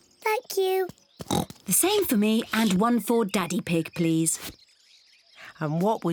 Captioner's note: oinks